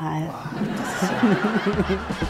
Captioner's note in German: Lachen; Trommeln